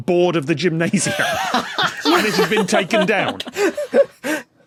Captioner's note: laugh